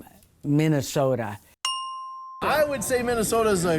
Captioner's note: bell dings